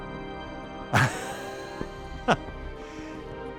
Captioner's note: laughing